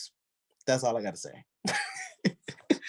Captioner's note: laughs